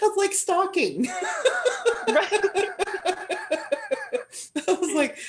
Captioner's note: laughter